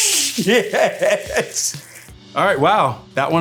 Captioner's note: laughing